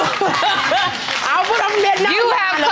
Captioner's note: audience clapping